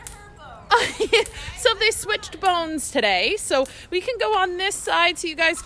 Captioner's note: laughing